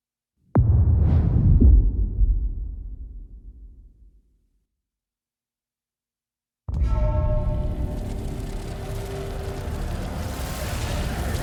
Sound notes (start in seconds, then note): 2.6 dramatic sound; 11.2 wings fluttering